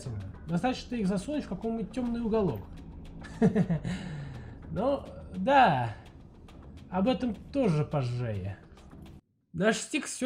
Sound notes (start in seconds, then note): 3.2 laught